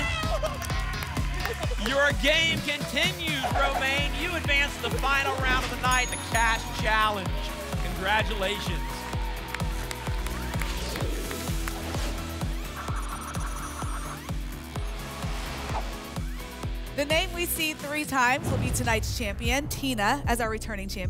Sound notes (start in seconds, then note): 0.2 applause and cheering; 9.3 applause and cheering; 10.6 whoosh; 12.7 spinning sounds